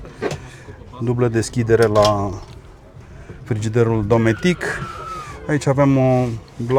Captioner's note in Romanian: râsete